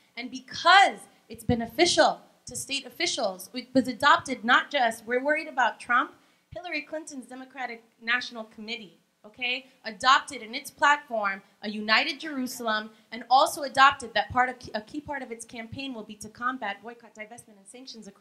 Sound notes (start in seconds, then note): none